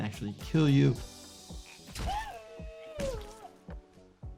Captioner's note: character shrieks